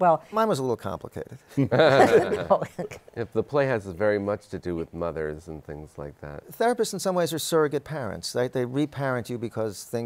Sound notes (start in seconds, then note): 1.6 laughter